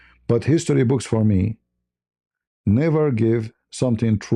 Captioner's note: none